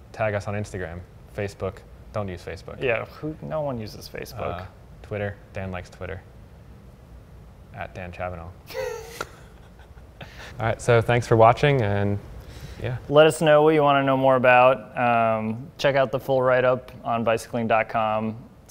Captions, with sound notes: tag us on Instagram, Facebook, don't use Facebook. Yeah. No one uses Facebook. Twitter. Dan likes Twitter. @danchabanov. (both laugh) Alright. So thanks for watching and yeah. Let us know what you wanna know more about. Check out the full write-up on bicycling.com.